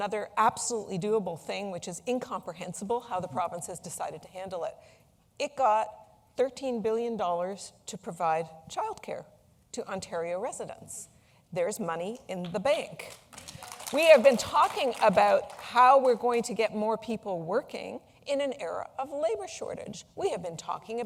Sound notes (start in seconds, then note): 15.8 applause